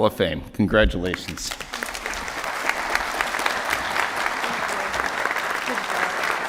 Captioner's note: applause